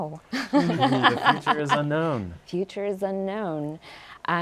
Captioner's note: laughs